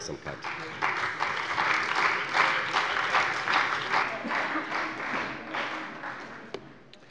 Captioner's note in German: Beifall bei der CDU und dem BÜNDNIS 90/DIE GRÜNEN